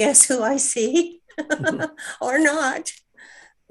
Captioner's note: laughing